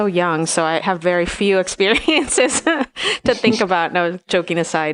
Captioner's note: laughs